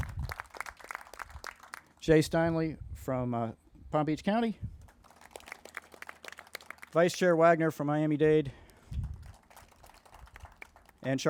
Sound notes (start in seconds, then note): 0.0 crowd applauding; 4.9 crowd applauding; 9.0 crowd applauding